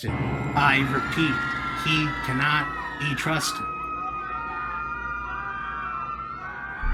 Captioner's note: people screaming